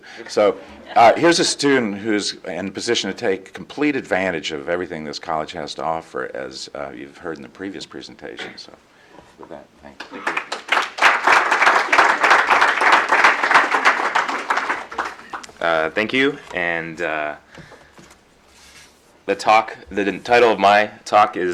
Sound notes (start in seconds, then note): 10.0 applause